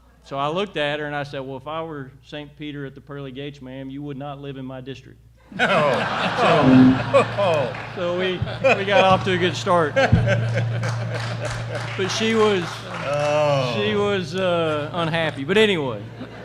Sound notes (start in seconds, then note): 5.5 laughter and applause; 10.8 applause; 16.0 laughter